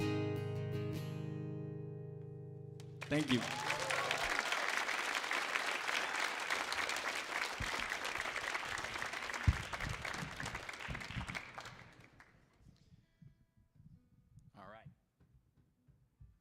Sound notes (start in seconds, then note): 0.0 sings in Spanish; 2.9 audience applauds and cheers